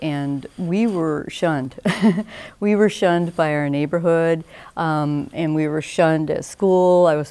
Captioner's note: awkward laugh